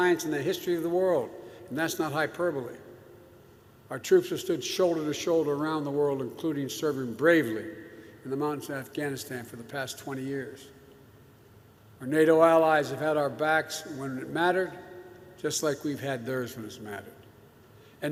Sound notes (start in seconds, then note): none